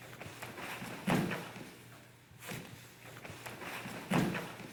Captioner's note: loud thumping